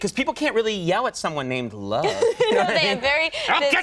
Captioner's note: Jennifer laughs